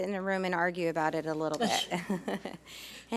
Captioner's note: laughs